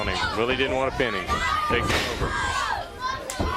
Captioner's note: crowd chatter